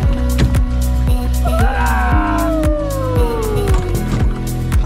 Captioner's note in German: alle jubeln